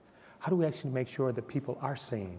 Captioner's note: none